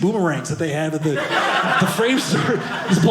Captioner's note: audience laughing